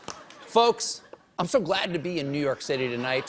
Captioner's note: laughter